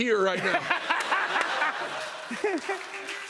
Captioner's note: laughter